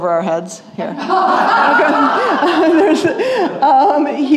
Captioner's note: laughter